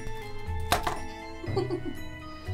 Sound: broomstick thuds; giggles off screen

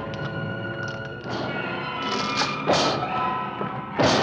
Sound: thumping and shrieking

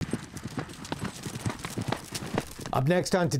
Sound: horse galloping

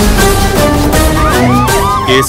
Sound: cop sirens wailing

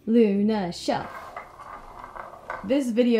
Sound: Bruce growls

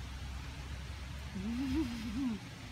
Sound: laughs

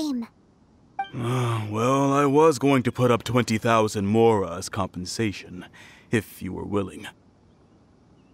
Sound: sigh

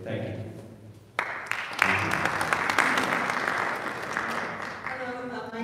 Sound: audience applauding

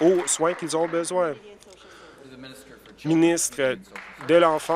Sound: some Applause

